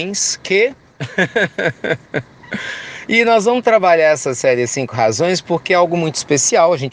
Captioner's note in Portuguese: risos